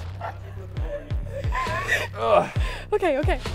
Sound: gasping; grunting

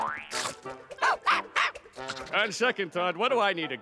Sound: barking

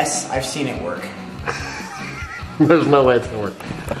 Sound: chuckles

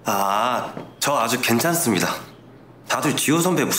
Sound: speaking Korean

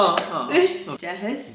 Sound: laughs

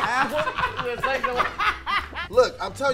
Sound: laughing

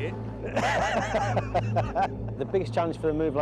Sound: all laugh

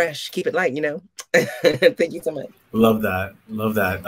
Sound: laughs

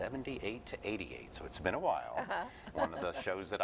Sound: laughter

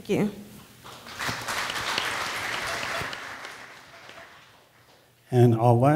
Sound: audience applause

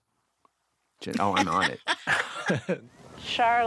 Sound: laughter

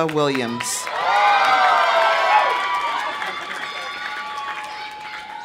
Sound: audience applauding; audience cheering

